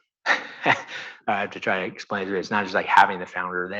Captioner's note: chuckles